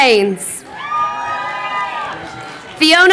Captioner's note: crowd cheering